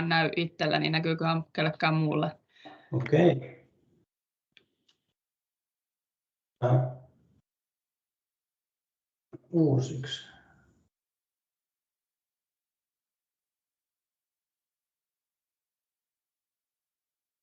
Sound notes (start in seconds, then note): 8.7 audio missing